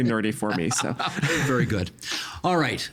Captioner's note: laughing